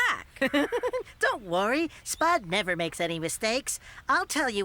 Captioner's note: giggling